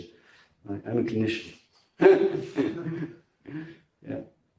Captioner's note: laughs